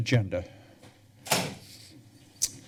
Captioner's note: thuds